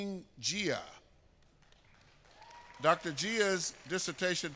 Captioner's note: applause